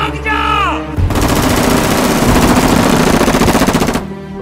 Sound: gun fire

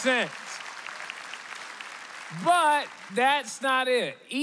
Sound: applause

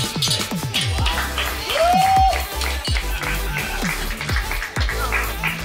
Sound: crowd cheering; upbeat electronic music

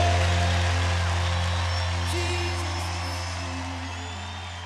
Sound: audience cheering

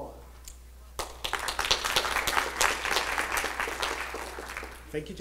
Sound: applauding

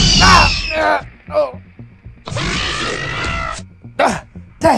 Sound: Raptor Squeals; raptor Sounds

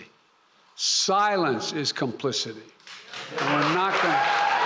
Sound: applause

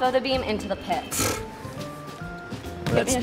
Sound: blows raspberry

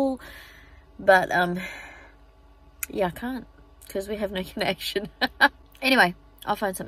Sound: laughs

